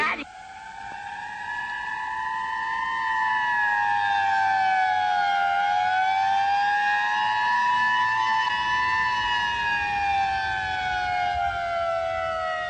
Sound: sirens

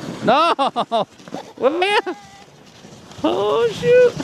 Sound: laughing

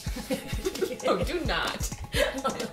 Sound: laughter

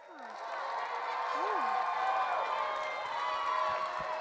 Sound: audience cheering

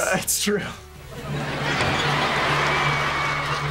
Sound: cheering

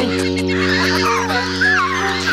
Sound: squawking

